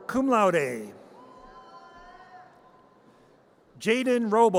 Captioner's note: audience cheers